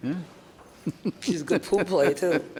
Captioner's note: man laughs